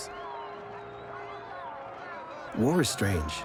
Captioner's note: cheering